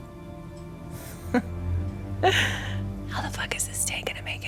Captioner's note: laughs